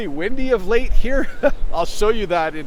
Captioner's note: chuckling